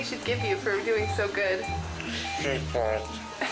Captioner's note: machinery beeping